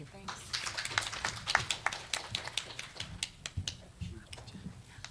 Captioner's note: audience applauds